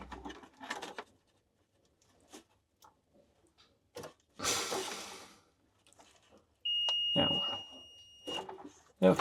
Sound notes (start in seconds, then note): 4.4 sighing; 6.6 multimeter beeping